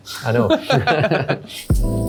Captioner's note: both laughing; upbeat music